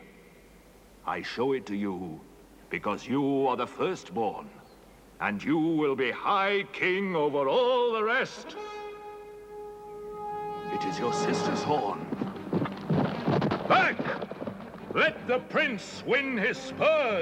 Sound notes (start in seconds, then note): 8.4 horn blowing